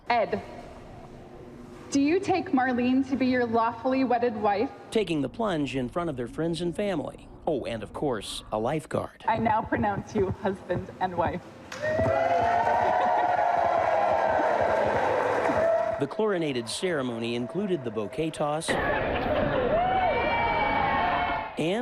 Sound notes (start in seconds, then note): 12.0 guests cheering; 19.2 guests chattering; 19.2 guests cheering